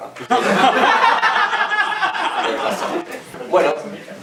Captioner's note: laughs